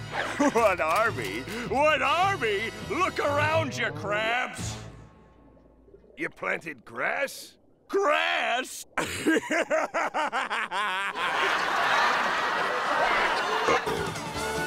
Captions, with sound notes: What army? What army?! Look around you, Krabs! You planted grass? Grass?! [laughing] Uh-oh.